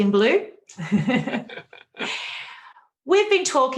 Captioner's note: laughing